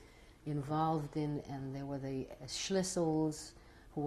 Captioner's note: non-english